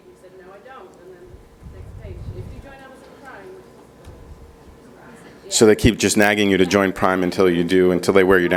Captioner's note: speaking off microphone